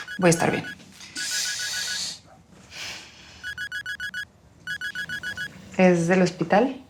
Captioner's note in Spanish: timbre de teléfono